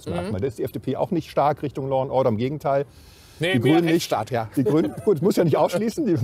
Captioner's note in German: lacht